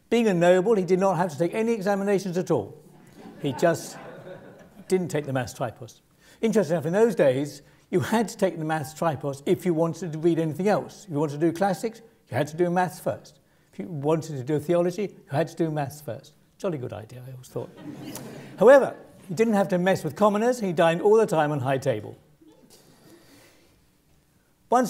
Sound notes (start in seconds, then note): 3.0 laugh; 17.7 laugh